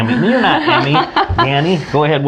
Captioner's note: laughs